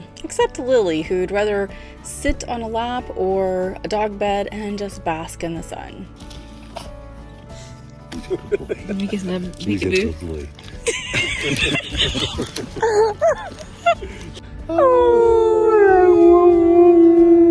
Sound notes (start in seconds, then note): 8.4 group laughing; 14.7 dog howling